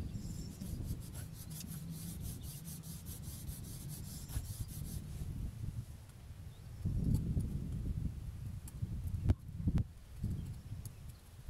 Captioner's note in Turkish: Kesme sesi